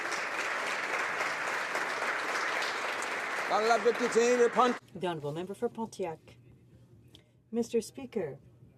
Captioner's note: applause